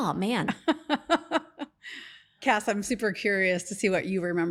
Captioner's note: laughs